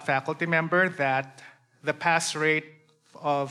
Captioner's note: none